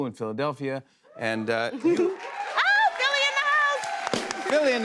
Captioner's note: cheers and applause